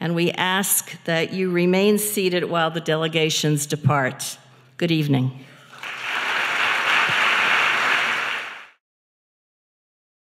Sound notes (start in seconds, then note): 5.6 applause